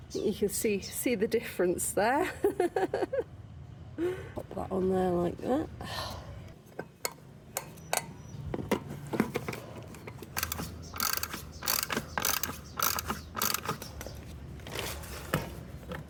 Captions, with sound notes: You can see the difference there. Pop that on there like that. [ratchet winding]